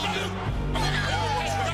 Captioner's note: crowd cheering